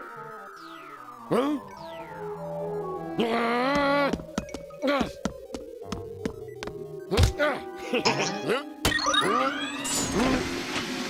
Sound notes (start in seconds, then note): 3.0 growls; 7.8 giggles; 9.7 suction hissing